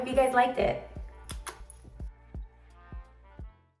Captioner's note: lips kiss